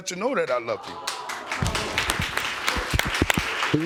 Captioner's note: audience cheering